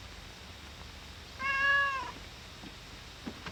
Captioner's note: cat meows